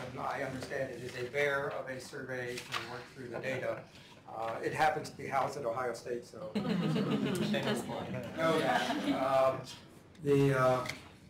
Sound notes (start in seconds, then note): 6.5 laughter